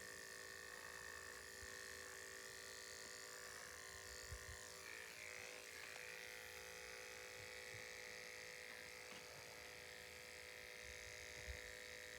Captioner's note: buzzing noises